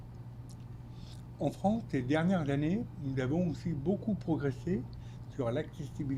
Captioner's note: speaking French